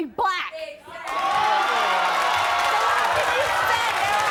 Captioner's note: audience cheers